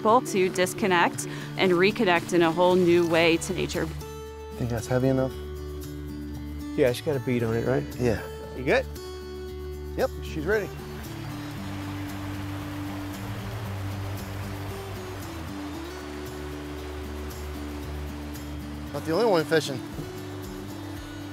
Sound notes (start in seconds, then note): 11.0 stream flowing, music continues; 18.9 fishermen talking; 20.7 stream flowing, music continues